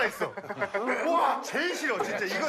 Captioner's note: laughing, I feel like I know it